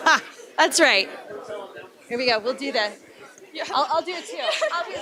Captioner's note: laughter